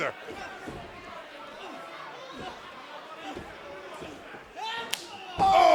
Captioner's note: crowd cheering